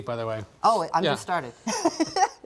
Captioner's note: laughs